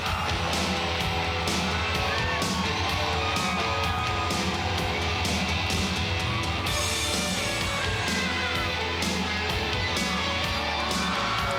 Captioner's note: crowd cheering